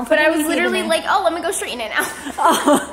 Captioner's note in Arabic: يضحك